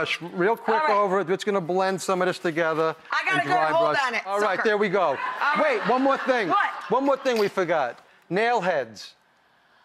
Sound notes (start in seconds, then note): 5.2 laughter